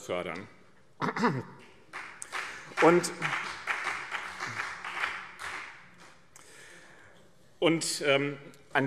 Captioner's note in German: Beifall BÜNDNIS 90/DIE GRÜNEN und CDU